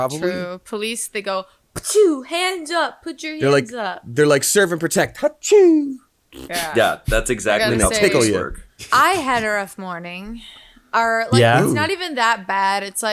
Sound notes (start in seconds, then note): 1.5 imitates sneezing sound; 6.3 blows raspberry; 6.4 imitates sneezing sound